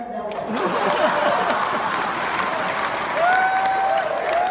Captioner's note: clapping